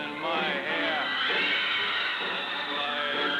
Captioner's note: cheers and applause